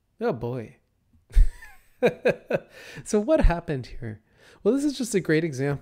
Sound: laughs

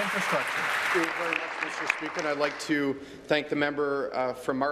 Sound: applause

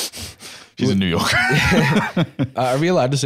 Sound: laughs

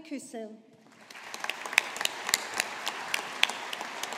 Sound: audience applauding

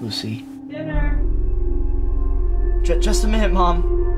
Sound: Mom yells for Dinner from a distance

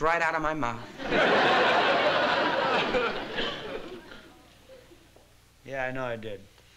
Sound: laughter

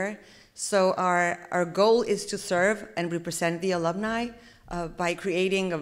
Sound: none

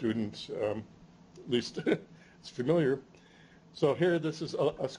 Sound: chuckles

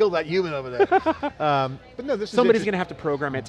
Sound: laughter

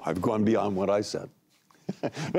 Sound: laughter

